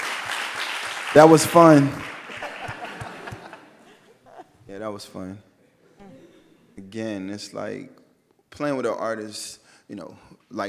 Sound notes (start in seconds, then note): 2.3 all laugh